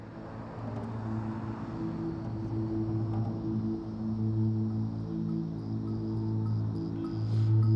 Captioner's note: traffic noise and a slow drone